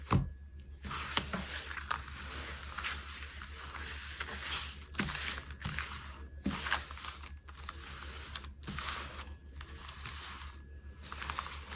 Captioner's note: drawing cards